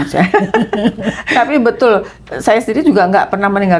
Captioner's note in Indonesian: tertawa